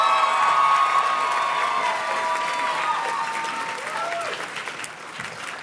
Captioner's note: audience cheers and claps